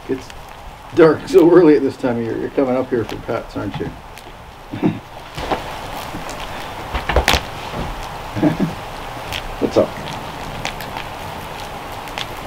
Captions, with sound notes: Gets dark so early at this time of year. You're coming up here for pets, aren't you? (fire crackling) (chuckles) What's up?